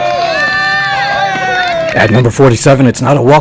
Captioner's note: crowd cheering